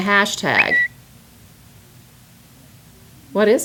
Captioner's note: whistle